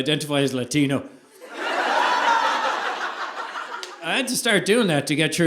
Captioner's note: audience laughing